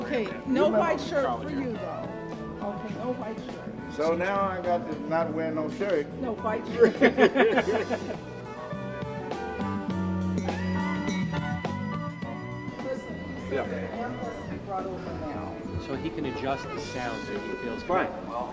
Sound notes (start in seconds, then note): 6.7 laughing